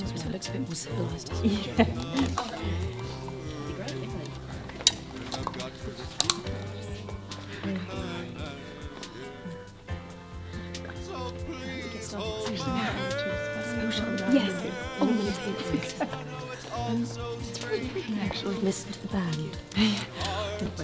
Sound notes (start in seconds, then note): 2.4 daters murmuring; 14.3 women murmuring